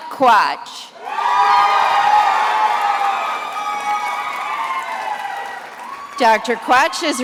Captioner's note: attendees applauding and cheering